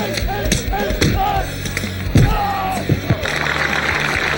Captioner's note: shouts; crowd applauds